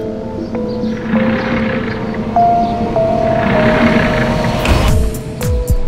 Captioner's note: Door opening and closing